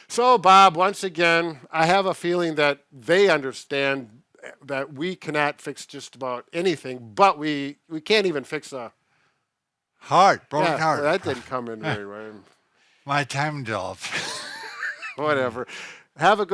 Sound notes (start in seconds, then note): 14.0 chuckles